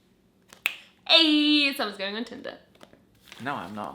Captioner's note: snaps finger